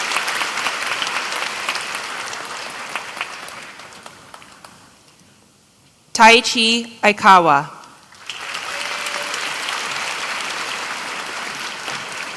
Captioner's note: applause